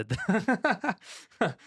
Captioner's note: laughing